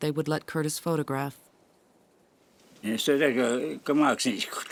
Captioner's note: speaking foreign language